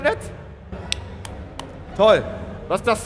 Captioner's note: clap